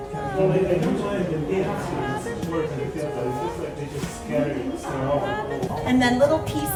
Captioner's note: none